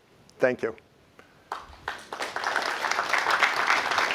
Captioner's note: applause